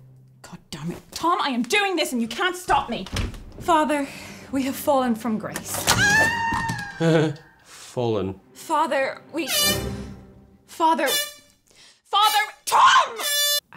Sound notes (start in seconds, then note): 5.3 a trapdoor opens; 5.9 hazel screams; 10.8 air horn; 13.0 air horn